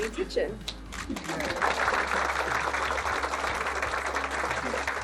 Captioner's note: audience applauding